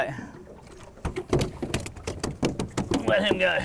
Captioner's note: fish flopping